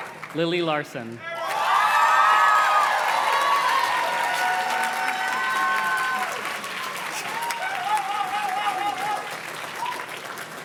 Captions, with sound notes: Lily Larson. (audience cheers and claps)